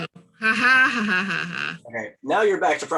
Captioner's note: laughs